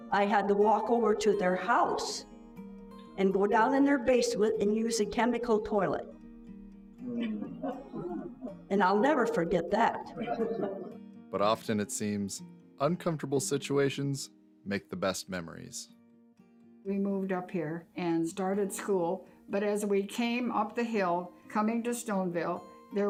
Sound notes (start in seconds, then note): 10.3 group chuckles